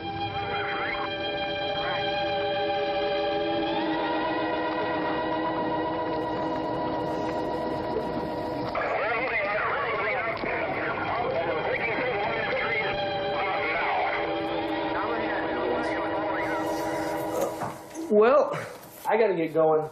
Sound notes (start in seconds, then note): 0.0 dramatic orchestral music; 9.0 radio Chatter